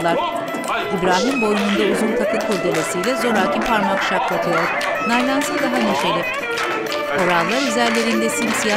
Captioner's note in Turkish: Müzik - Oyun havası; Alkış sesleri